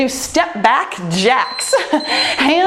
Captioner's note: timer beeps